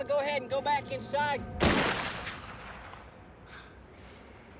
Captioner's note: gunshot